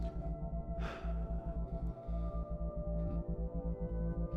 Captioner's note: sighs